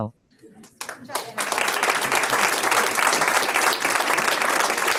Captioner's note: audience applauds